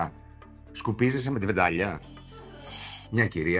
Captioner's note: laughs